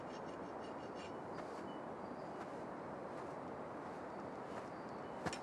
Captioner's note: scraping continues